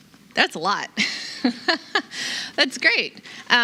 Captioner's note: chuckling